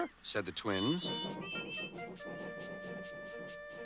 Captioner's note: both tooting